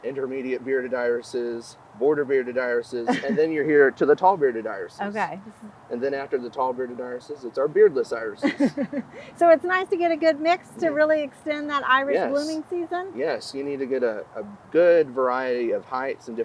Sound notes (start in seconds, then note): 3.0 interviewer chuckling; 8.4 interviewer chuckling